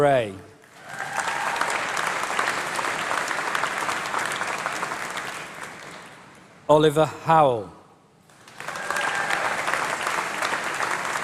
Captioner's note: applause